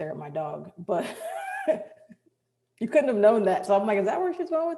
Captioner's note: chuckles